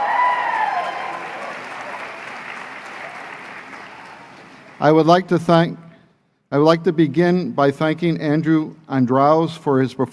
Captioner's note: applause; cheering